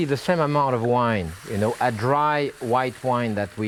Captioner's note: wine sizzles